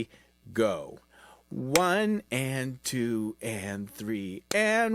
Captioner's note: clapping